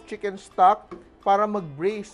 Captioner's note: knock